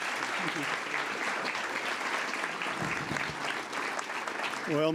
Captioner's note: applause